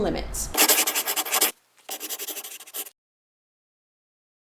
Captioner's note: scribbling